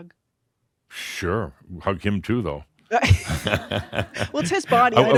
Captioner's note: Adamus chuckles